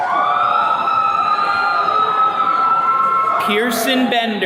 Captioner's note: attendees cheering